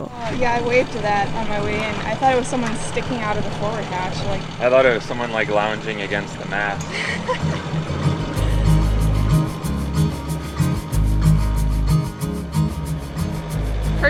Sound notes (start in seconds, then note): 6.8 chuckles